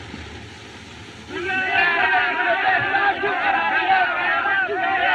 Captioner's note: shouting